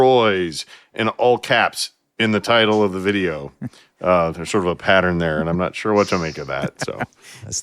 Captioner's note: laughing